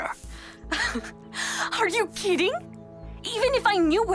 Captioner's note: Lienda chuckles